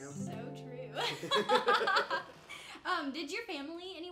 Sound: both laughing

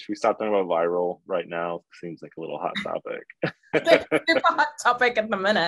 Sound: laughs

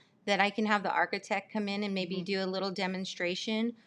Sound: none

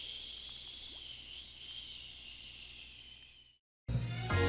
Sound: shushing sounds; shushing fades; cheerful game music

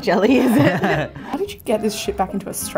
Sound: laughs

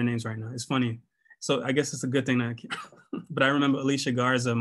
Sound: laughter

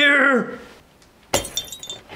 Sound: glass breaks

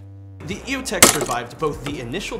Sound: glass breaking

